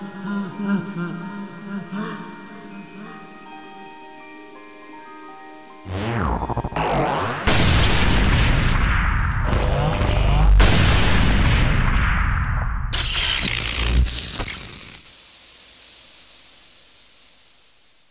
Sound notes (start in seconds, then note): 6.7 explosion